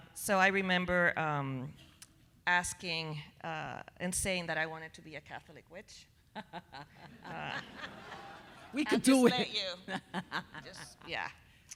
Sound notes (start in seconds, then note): 7.0 audience laughing